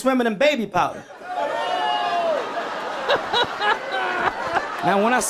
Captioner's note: people laughing